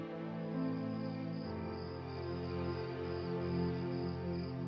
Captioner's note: crickets chirping